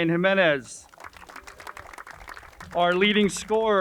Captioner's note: crowd applauds